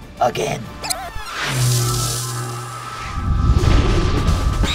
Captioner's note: electronics buzzing; owl Bear screech